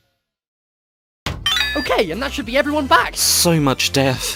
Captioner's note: recovery noise